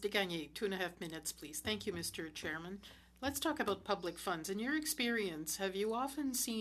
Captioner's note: speaking French